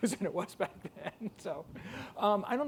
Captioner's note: laughs